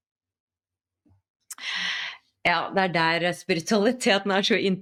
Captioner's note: sigh